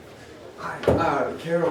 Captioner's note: none